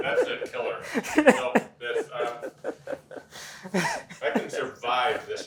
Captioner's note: laughing